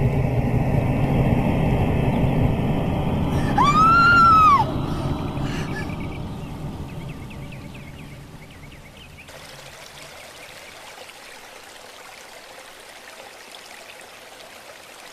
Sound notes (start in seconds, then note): 3.3 Kate screaming; 11.2 creek babbling